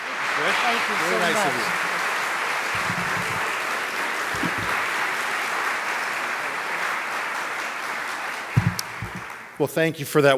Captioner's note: applause